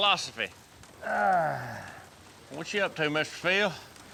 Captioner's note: grunts